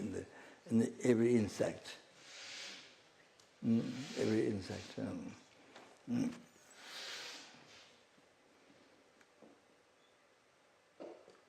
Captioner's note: recites in Tibetan